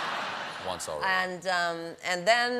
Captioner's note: laughter